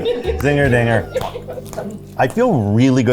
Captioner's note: crew laughing